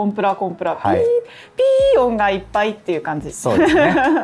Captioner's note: laughs